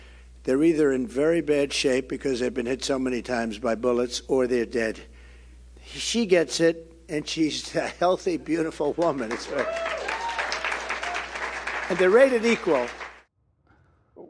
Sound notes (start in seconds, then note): 8.9 applause; 9.1 cheering